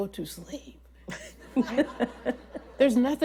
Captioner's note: laughter